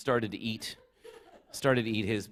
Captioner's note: laughter